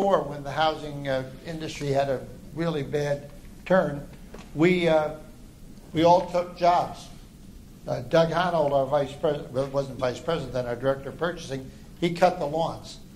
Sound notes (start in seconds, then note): none